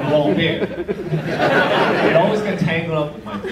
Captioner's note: audience laughs